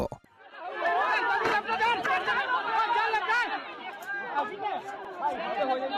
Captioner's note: onlookers speaking in foreign language